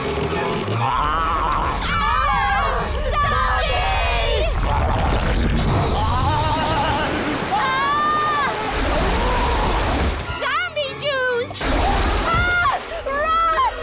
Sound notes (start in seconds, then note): 0.7 screaming